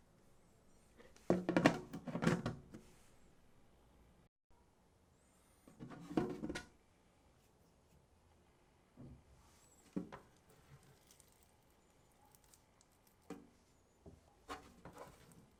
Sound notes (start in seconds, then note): 14.4 folding